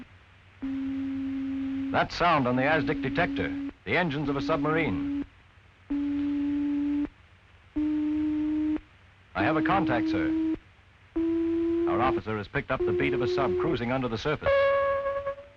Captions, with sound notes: (beeping) That sound on the asdic detector, the engines of a submarine. (beeping) I have a contact, sir. Our officer has picked up the beat of a sub cruising under the surface.